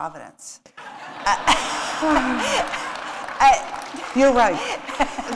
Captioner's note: laughter